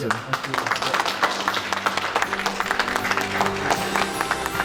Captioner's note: crowd clapping